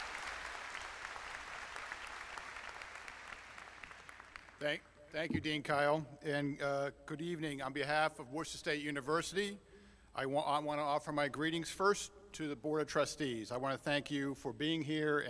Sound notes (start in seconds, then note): 0.0 applause